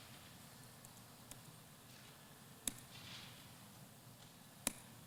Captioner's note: computer keys click